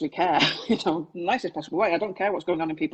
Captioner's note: laughs